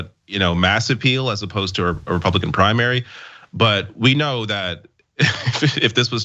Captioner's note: laugh